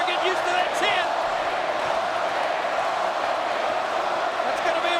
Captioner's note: crowd clamoring and chanting